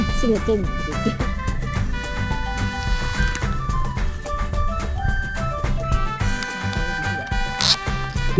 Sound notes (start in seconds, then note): 2.4 sound of scratching feet